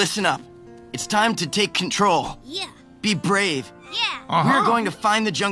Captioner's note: animals voicing agreement